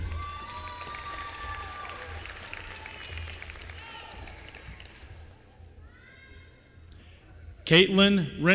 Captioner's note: applause